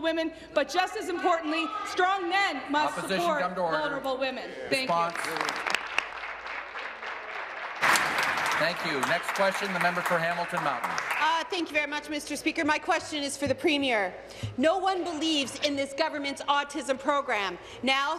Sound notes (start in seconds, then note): 9.3 applause